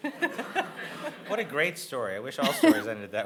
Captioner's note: audience laughing